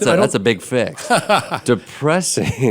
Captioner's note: laughing